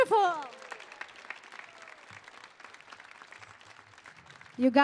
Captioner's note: audience applauding